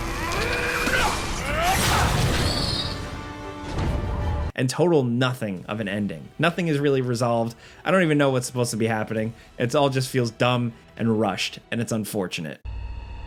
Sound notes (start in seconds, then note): 0.2 yelling; 0.8 blow slams